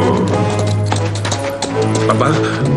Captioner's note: panting